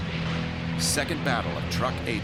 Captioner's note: engine roaring